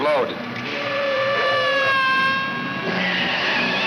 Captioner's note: tires screech